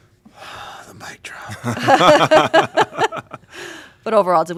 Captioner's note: laughter